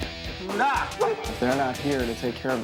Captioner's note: muttering